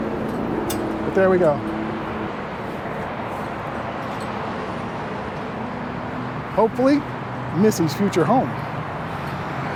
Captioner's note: street Noise